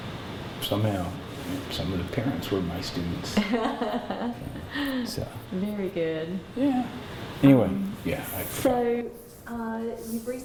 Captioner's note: laughter